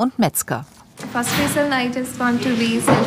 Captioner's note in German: englisch